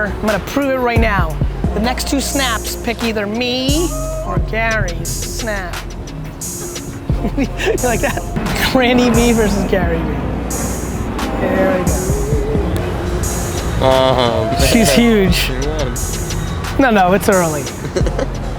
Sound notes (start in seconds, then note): 7.0 laughs